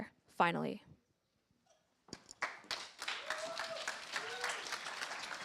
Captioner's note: cheers, applause